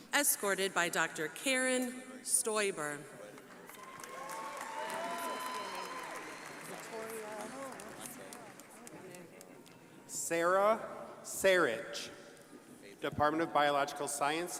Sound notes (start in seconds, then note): 3.4 crowd applauding